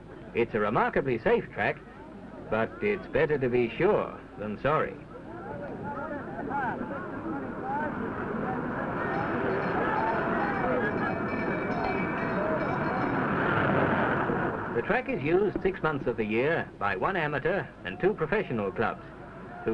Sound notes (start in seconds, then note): 6.1 indistinct voices from spectators